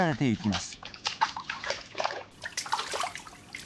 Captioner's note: light splashing